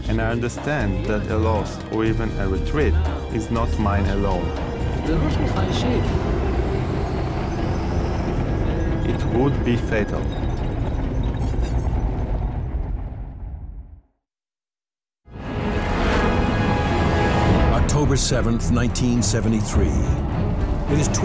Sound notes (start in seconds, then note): 11.0 tanks rumbling; 15.3 dramatic music